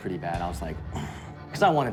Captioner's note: grunts